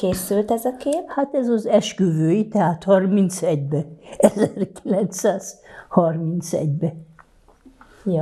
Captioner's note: laughing